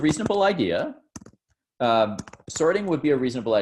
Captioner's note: computer keys clicking